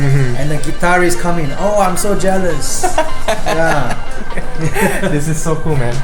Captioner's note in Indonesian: tertawa